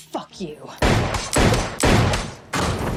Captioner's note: gunshots